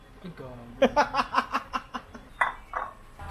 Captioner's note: laughs